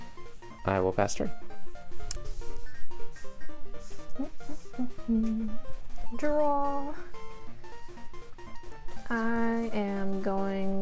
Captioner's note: humming